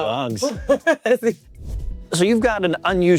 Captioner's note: chuckling